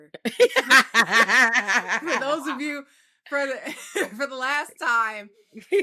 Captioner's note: laughs